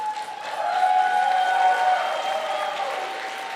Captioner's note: applause